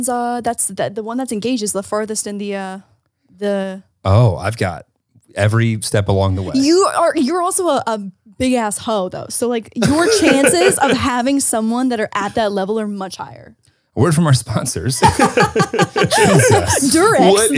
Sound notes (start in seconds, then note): 14.8 everyone laughs